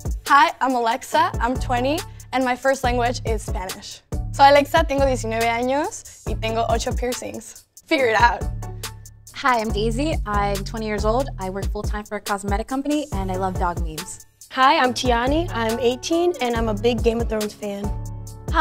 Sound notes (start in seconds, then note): 4.4 speaks Spanish